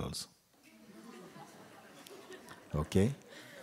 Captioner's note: laughter